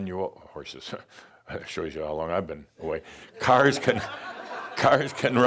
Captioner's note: laughter